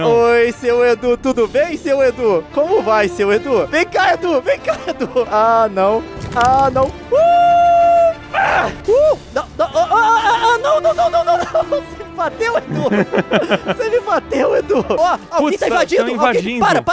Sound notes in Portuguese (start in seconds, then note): 7.1 gritos; 13.0 risadas